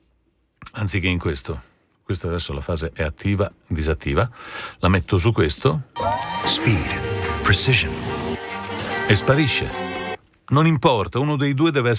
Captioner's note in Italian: Applauso